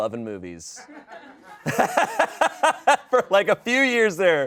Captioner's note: audience laughing